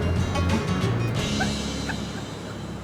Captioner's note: laughing